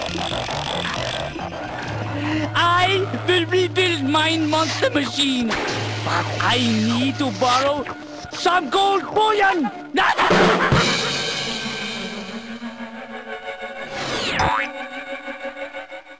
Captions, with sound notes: I will rebuild mein monster machine! But I need to borrow the gold bone! (evil laugh)